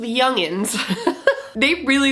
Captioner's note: giggles